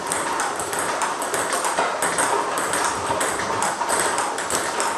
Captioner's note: ball ping pong hitting continues